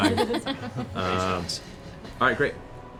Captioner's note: laughter